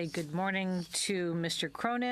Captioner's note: speaking French